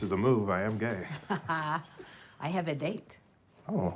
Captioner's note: chuckles